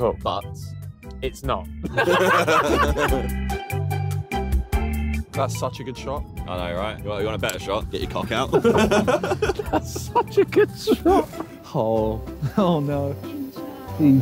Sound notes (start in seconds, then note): 1.8 all laughing; 3.9 jolly music; 8.4 laughing